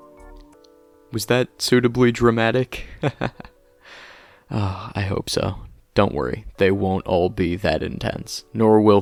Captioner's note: chuckles